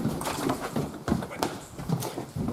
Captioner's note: quietly